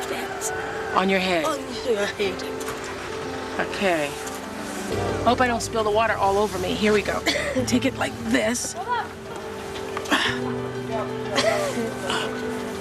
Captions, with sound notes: ON YOUR HEAD? OKAY. HOPE I DON'T SPILL THE WATER ALL OVER ME. HERE WE GO. (laughs) TAKE IT LIKE THIS. (grunting)